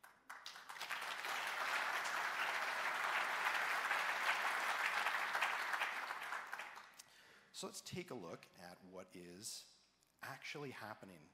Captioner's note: applause